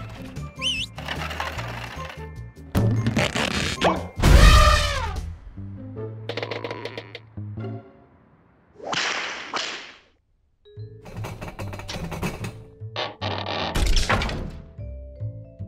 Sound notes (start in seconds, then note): 0.5 whistles; 4.2 trumpets; 9.0 snap, snap